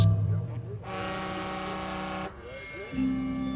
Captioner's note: boat horn bellows